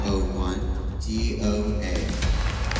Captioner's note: applause